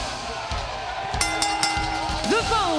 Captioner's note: bell ringing